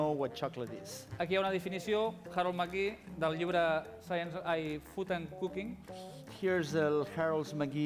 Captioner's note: non-english speech